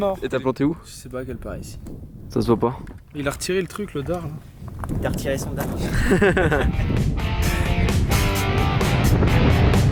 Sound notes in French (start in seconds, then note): 5.8 rires; 6.9 musique d'action